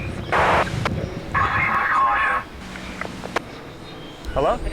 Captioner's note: voice over radio crackles